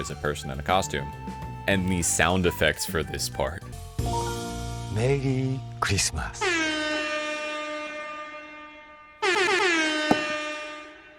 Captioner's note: air horn